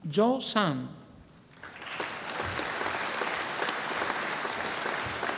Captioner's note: audience applauding